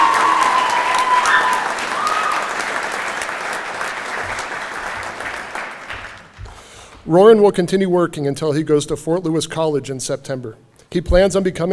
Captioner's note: cheering and Applause